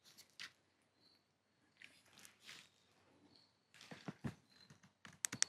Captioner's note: insects chirping